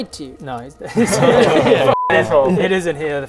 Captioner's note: nervous laughter